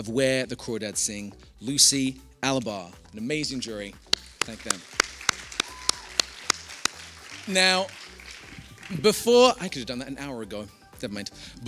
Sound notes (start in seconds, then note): 6.8 applause